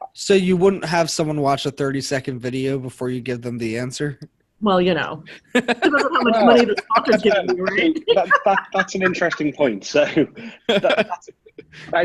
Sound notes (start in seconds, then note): 5.5 laughter drowning out speaker